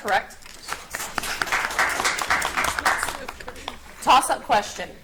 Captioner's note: audience applauds